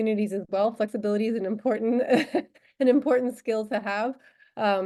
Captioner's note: laughter